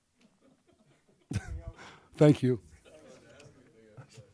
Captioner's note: laughs